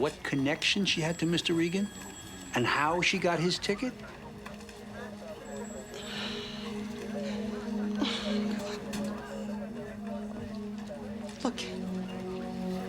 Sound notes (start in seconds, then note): 6.2 Nora sighs; 6.2 tense music